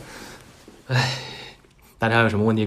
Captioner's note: happy sigh